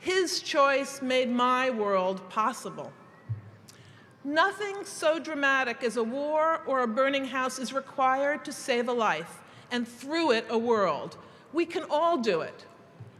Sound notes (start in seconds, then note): none